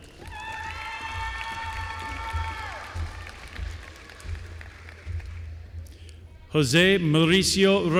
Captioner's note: applause